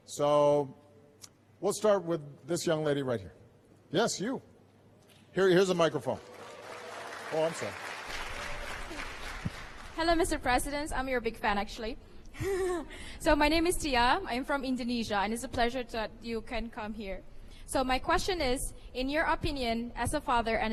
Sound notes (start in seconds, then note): 5.9 applause; 12.4 laughter